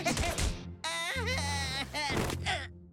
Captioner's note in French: gémissement